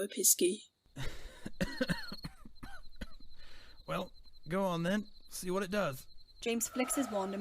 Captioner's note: sighs; Sirius half coughs, half laughs